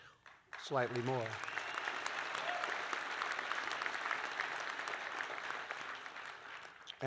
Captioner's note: applause